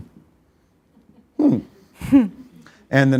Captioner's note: laughs